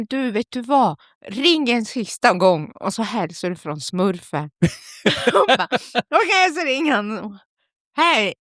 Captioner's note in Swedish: skratt